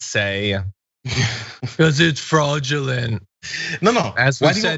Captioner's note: laugh